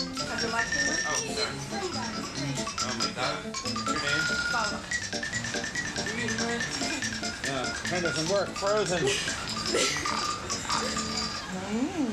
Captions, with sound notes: Oh, sorry. (woman speaking in foreign language) Oh my god. What's your name? Salma. Pen doesn't work, frozen. (girls chuckling)